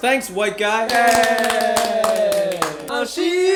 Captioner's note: everyone cheering